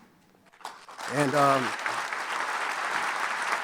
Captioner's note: applauding